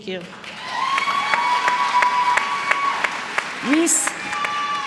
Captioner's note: applause